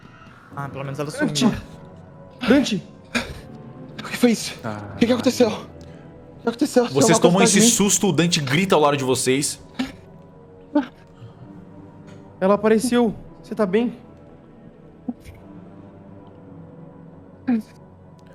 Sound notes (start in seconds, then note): 3.3 exhales